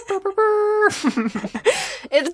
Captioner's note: lols